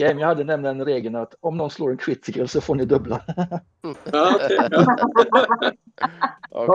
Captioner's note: laughing